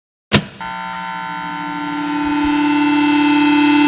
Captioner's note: buzzer buzzing